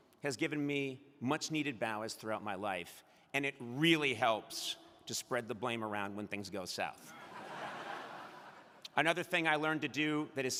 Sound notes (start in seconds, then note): 7.1 crowd laughing